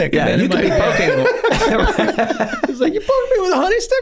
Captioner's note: gang laughing